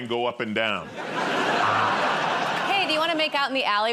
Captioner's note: laughter